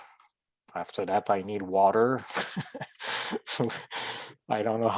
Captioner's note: chuckling